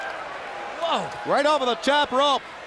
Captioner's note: crowd cheering